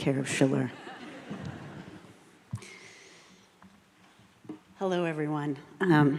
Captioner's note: audience laughing